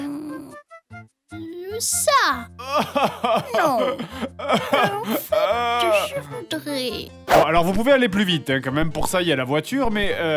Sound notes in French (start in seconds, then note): 0.0 Voix de mamie; 3.6 Voix de mamie